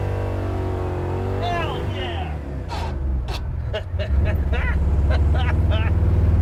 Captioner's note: mimics engine